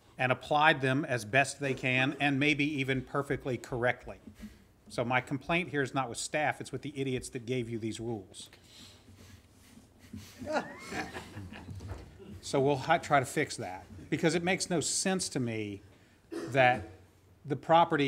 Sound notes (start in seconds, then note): 10.0 laughter